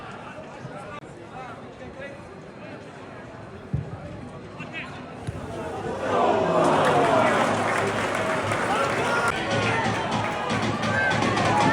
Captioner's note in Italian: Applauso